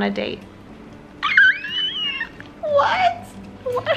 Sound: screaming

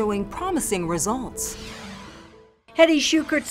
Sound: logo swooshing

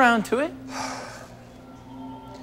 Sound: sighs heavily

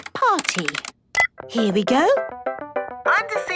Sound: beep

